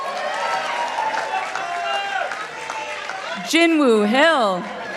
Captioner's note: participants applauding